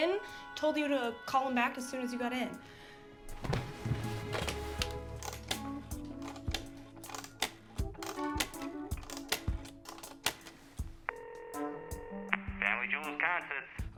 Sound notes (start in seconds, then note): 3.2 groovy bright music; 4.3 phone dial clicking; 11.0 phone ringing